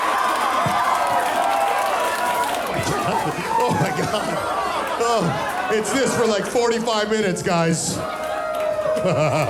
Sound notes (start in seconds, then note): 0.0 audience continues screaming; 5.7 laughing